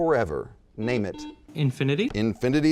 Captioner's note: buzzing